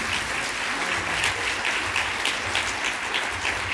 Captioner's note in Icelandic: fagnaðarlæti